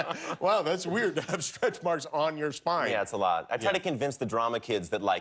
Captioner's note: laughter